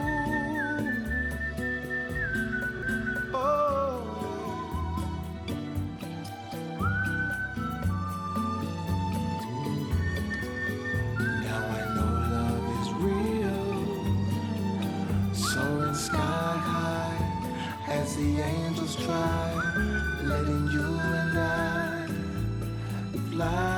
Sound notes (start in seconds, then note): 0.1 whistling; 8.6 whistling